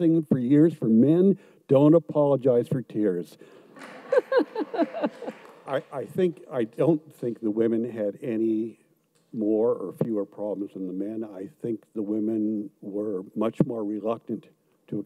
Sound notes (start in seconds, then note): 3.7 audience claps; 3.8 laughs